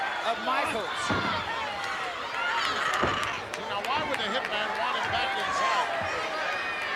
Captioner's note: applause